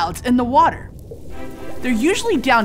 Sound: underwater bubbles

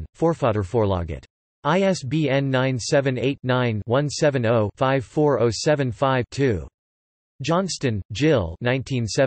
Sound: in Swedish

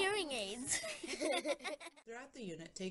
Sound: laughter

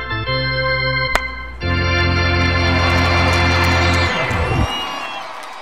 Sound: baseball hit, crowd cheering

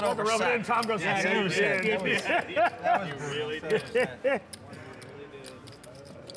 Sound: laughing

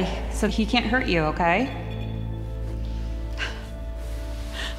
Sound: beeping

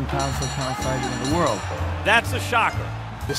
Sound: bell dinging

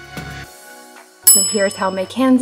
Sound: timer ding

